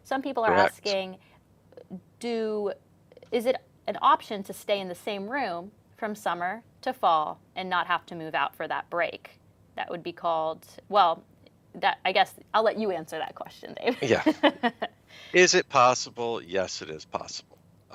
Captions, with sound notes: Some people are asking- - Correct. - Is it an option to stay in the same room from summer to fall and not have to move out for that break? That would be called, well, I guess I'll let you answer that question, David. (chuckles) - Yeah. Is it possible? Yes, it is possible.